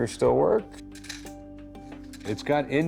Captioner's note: clicking